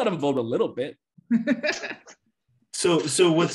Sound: laughs

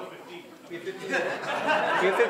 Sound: laughter

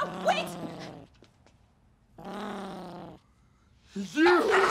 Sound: growling

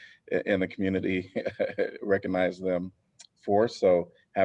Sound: laughter

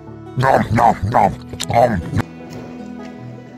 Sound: nom nom nom, om nom

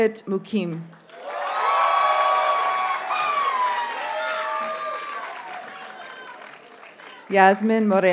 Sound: audience cheers and applauds

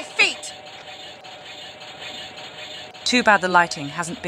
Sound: sounds of blade wheels

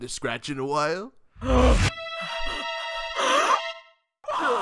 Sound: Album gasps and sputters frantically; Album screams in the distance

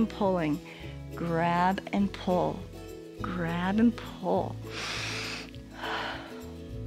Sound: inhales and exhales

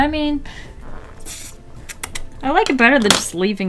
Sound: mouth kissing

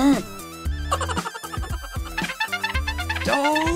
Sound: mouse laughing

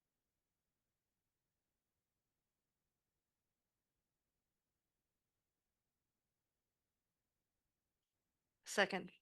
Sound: silence

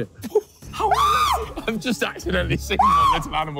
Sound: JJ screaming

